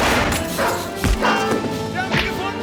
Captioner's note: gunshot